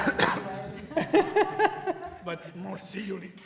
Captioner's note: laughs